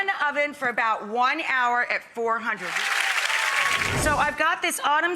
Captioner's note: audience applauding